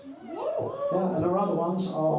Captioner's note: crowd cheering